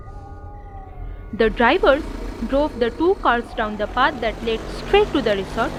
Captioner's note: car engine start noise